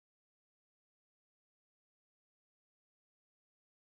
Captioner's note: none